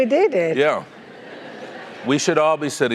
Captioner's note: laugh